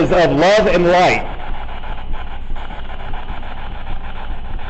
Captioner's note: static buzzing